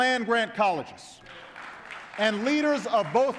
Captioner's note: applause